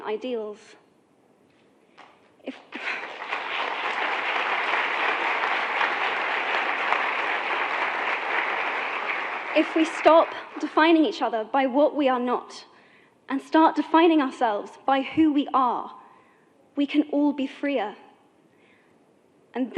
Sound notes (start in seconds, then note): 2.7 clapping